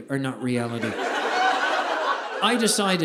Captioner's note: audience laughing